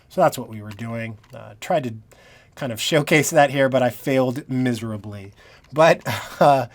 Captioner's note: laughing